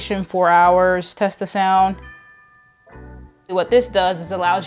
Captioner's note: doorbell rings